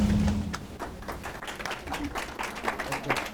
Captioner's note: applause